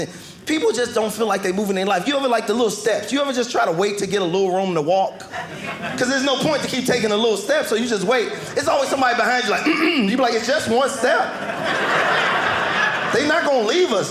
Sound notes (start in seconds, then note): 9.5 clears throat; 10.0 audience laughing